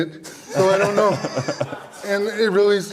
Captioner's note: audience Laughter